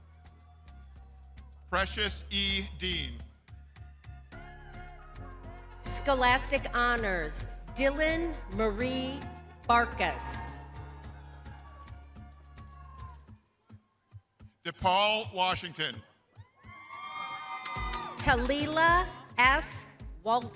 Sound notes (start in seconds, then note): 7.7 upbeat music; 13.0 crowd cheering